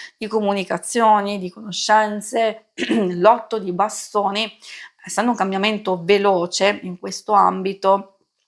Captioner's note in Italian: schiarire la voce